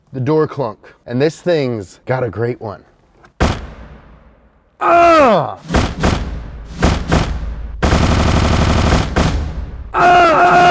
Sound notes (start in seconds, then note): 3.4 loud clunk; 5.7 door clunk repeated